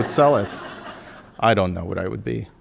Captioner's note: audience laughing